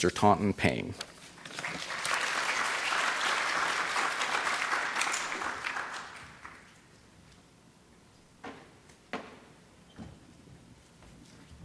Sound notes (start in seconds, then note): 1.4 applause